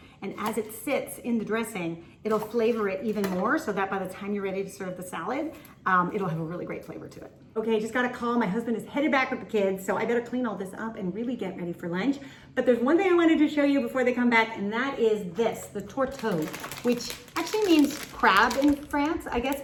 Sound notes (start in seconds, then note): none